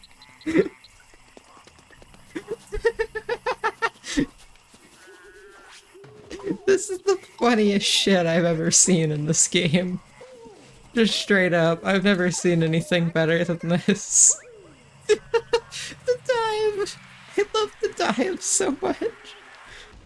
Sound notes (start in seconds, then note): 2.2 gradual laughter